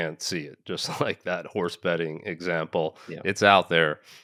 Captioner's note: laughing